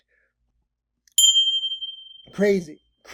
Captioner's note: bell chiming